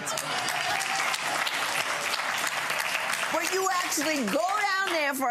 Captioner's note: gallery claps